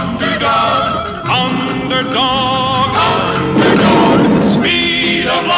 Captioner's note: explosion; lighting Strikes